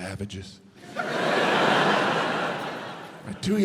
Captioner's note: audience laughs